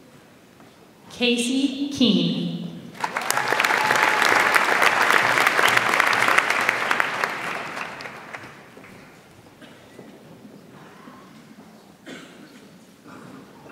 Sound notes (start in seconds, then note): 2.9 audience applauds